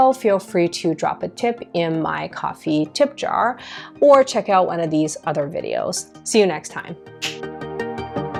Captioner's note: snap